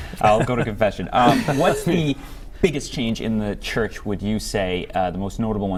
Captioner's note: laughter